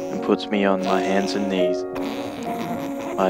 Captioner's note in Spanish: nasal